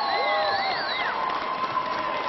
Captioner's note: applause